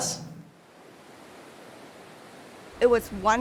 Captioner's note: waves crashing